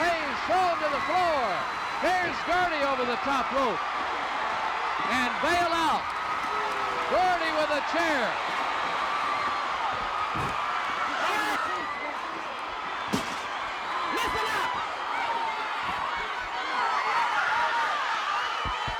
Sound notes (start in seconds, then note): 8.6 audience cheering; 13.0 chair clatters; 15.8 audience cheering